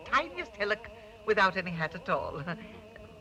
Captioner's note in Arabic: يضحك